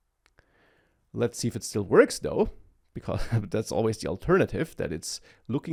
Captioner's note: laughs